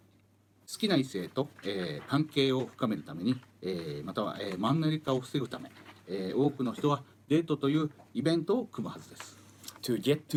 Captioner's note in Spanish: Hablando en japonés